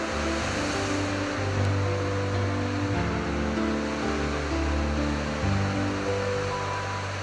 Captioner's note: sound of waves